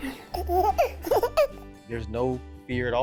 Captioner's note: baby laughing